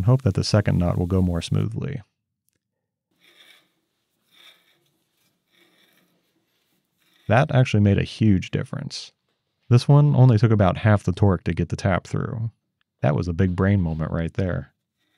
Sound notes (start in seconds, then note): 3.1 tool turning